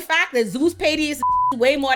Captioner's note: beep